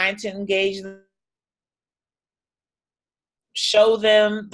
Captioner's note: audio drops out